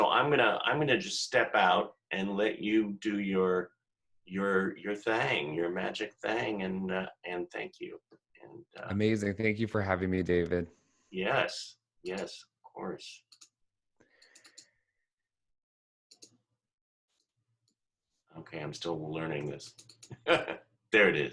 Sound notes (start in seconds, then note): 20.1 giggle